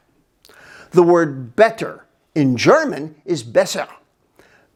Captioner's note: speaks in German